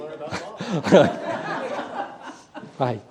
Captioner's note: laughter